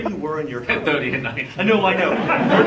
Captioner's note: laughing; laughs